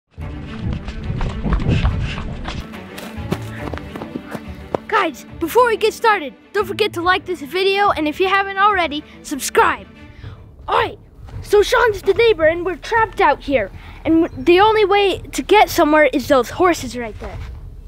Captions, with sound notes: (upbeat music) (footsteps) - Guys, before we get started don't forget to like this video, and if you haven't already subscribe. Alright, so Shawn just a neighbor, and we're trapped out here, and the only way to get somewhere is those horses right there.